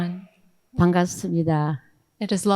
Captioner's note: speaking in foreign language